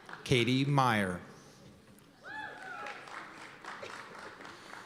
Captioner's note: cheers and applause